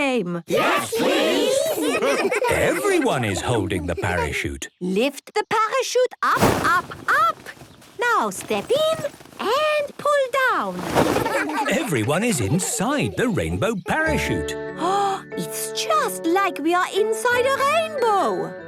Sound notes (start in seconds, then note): 1.5 laughter; 11.2 laughter